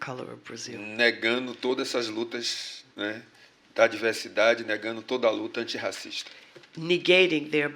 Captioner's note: speaking portuguese